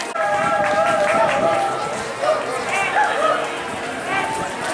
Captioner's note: cheering